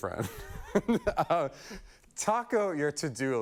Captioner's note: laughing